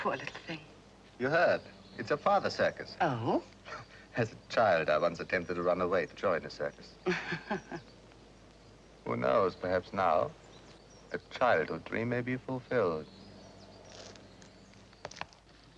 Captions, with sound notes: - Poor little thing. - You heard? It's her father's circus. - Oh? - (chuckles) As a child, I once attempted to run away to join a circus. (Angela chuckles) Who knows, perhaps now, a childhood dream may be fulfilled.